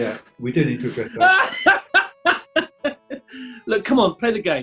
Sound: laughing

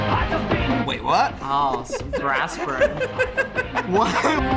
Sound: giggling

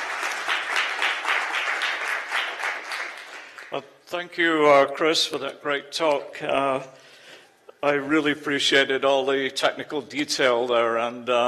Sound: applause

